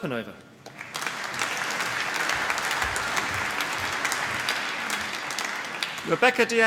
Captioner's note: applause